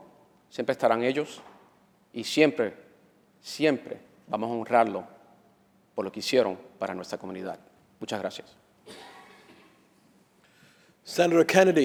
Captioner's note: speaking spanish